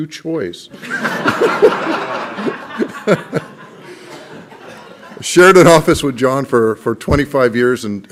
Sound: laughter

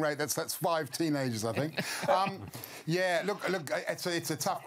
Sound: laughter

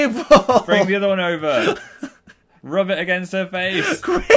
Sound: laughing

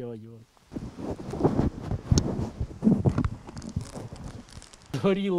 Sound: wind is whistling

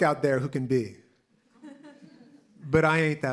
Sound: laughter

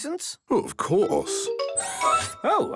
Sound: mechanical arm whirring

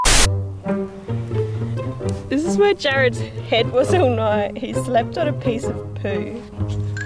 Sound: laughs

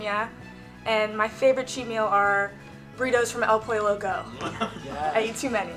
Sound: laughter

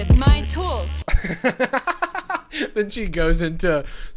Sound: laughing

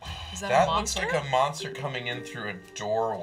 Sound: sighs

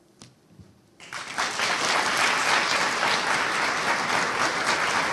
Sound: audience applauding

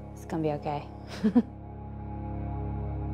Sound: laughs

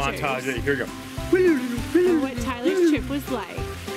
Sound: silly noises

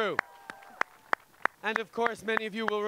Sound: cheers and applause

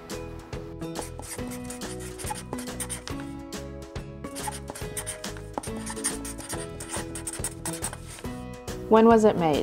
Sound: marker scratching on paper sounds

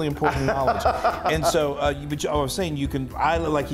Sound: laugh

